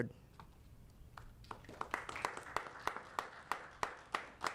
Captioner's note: applauding